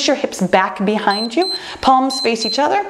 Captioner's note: timer beeps